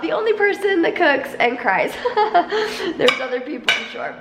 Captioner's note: laughs